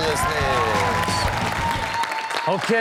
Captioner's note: rock music; audience cheering